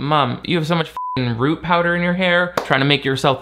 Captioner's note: beep